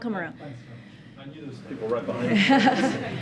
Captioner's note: laughter